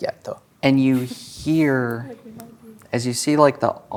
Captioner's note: quietly